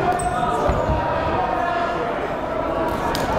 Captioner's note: yelling